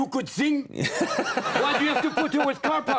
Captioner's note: audience laughs